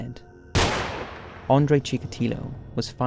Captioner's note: gun firing